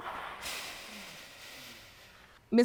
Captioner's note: voice breaks